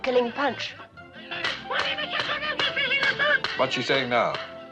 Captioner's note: chattering